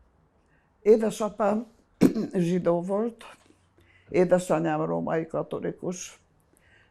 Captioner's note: clear throat